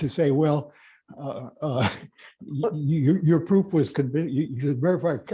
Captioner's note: laughs